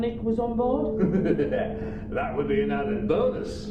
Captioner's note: Ragtooth laughs